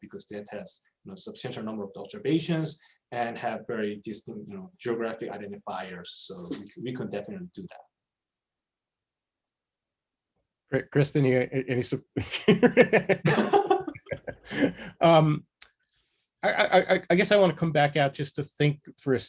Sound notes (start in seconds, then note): 12.4 laughs